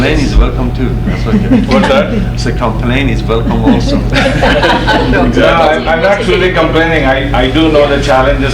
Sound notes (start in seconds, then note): 3.4 laughs